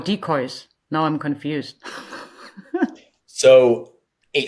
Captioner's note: chuckles